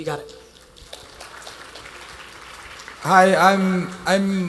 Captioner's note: attendees applauding